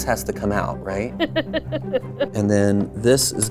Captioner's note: laughs